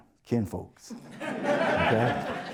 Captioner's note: audience Laughter